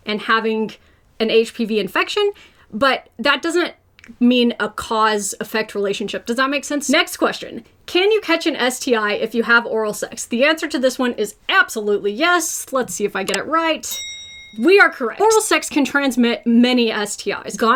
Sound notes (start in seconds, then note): 13.8 bell dings